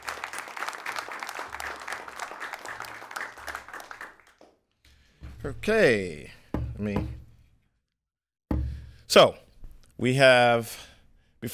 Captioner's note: applause